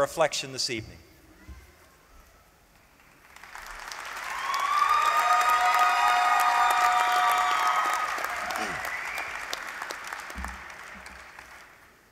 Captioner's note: applause